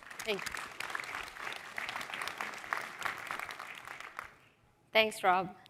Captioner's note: applause